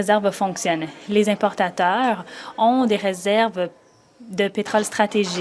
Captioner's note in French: voix de l'interprète